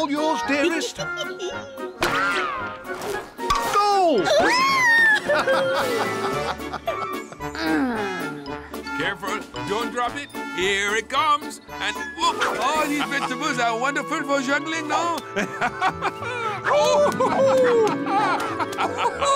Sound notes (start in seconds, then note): 0.4 Queen giggles; 4.2 screams; 4.3 laughs; 7.4 sighs